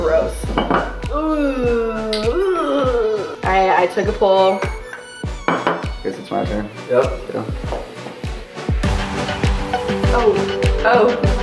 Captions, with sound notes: - That is gross. (retching) I took a pull. - I guess it's my turn. - Oh, oh.